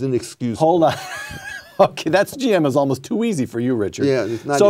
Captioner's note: laughing